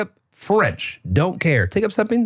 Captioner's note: laughing